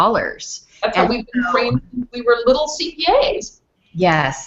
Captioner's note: audio skips